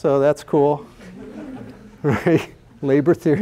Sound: laughter

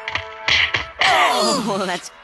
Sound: punching and kicking on TV

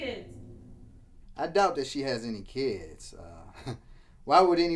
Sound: chuckles

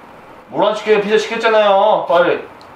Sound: none

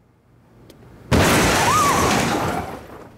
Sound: screaming

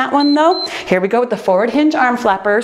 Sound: timer beeps

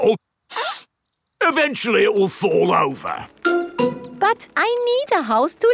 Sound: sniffs

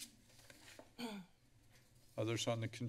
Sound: clearing throat in the background

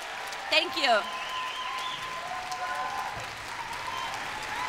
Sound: applause

